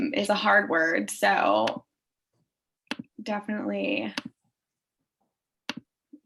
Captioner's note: keyboard clicking